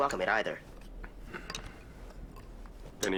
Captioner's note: breathing heavily